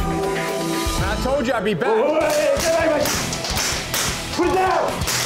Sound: gun firing

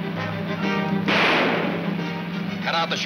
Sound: gun fires

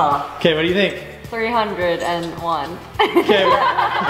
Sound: chuckles

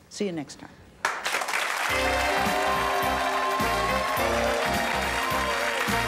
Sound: applause; captivating music

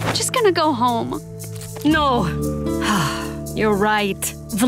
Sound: sighing

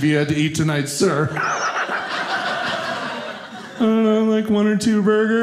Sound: audience laughing

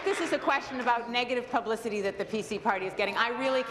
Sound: applause

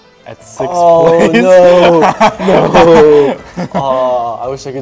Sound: laughs

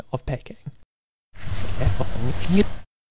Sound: rewind sound

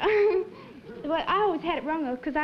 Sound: nervous laugh

